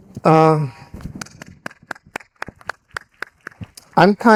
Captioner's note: audience applauding